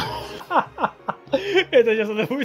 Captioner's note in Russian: Смех